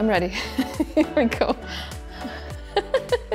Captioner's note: laughing